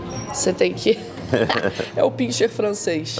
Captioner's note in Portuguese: risos